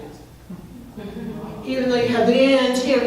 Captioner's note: crowd laughing